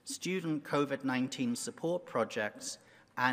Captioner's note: none